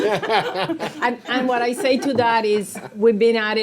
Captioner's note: board members laughing